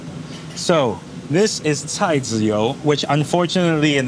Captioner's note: speaking in foreign language